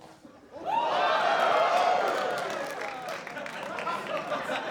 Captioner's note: cheering and applause